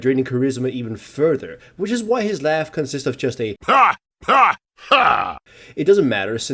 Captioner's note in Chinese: 哈! 哈! 哈!